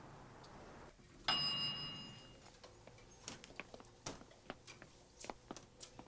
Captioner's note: elevator bell dinging